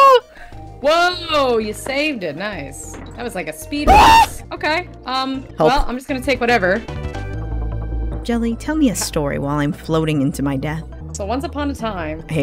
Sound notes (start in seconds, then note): 3.8 scream